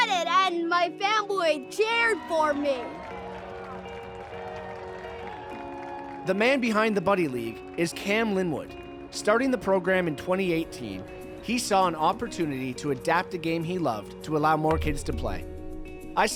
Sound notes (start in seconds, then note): 3.5 crowd cheering